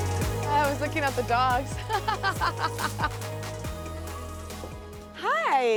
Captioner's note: slow electronic music continues; laughs